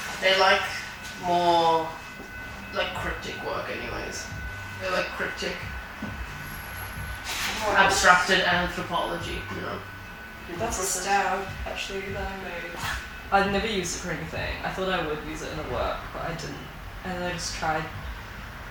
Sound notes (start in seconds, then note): 7.4 paper rustling